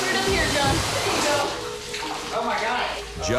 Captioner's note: water stops